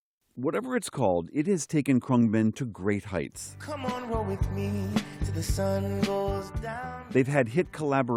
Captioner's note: voice-over